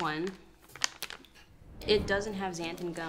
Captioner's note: bag crinkles